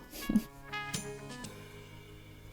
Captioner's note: scissors snip